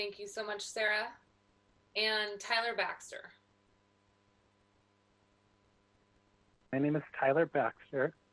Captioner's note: silence